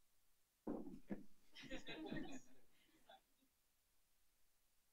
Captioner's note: laughter